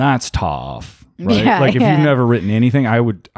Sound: laughs

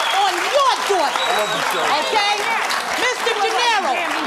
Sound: cheering

